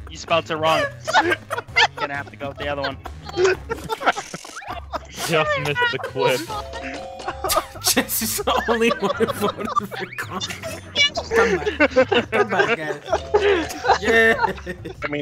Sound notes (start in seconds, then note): 1.0 laughter; 10.0 laughing; 14.3 laughs